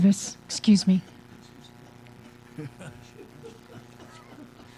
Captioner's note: laughter